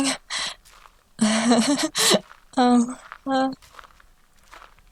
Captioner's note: awkward laughter